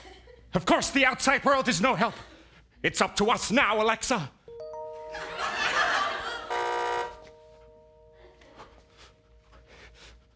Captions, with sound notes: Of course the outside world is no help! It's up to us now, Alexa. (Alexa chime) (Doorbell buzz)